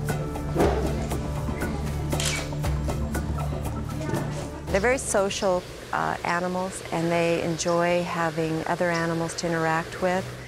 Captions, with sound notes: (camera clicking) (people chattering) - They're very social animals, and they enjoy having other animals to interact with.